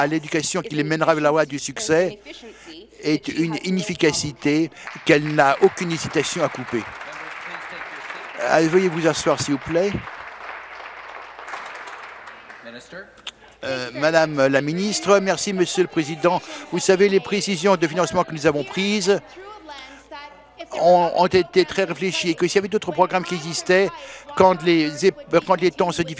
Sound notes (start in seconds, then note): 7.5 applause